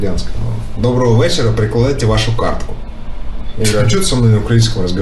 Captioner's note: imitates Ukrainian